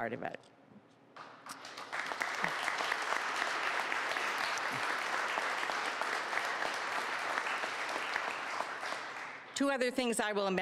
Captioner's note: applause